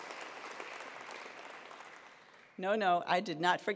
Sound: attendees applauding

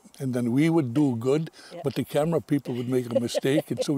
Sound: laughing

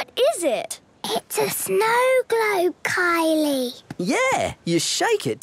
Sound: whispering

